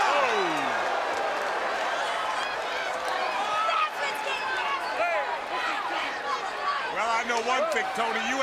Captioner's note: crowd chatter